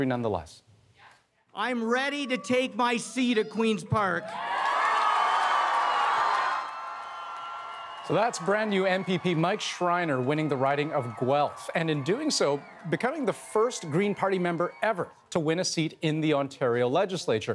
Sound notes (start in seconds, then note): 9.6 cheers and Applause